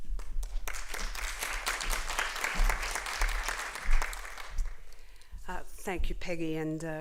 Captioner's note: applause